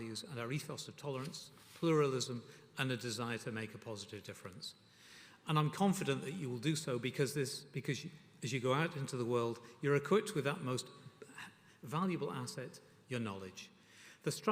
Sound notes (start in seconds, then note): none